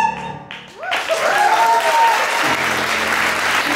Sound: applause over piano

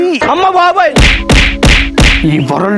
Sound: meme punch sounds

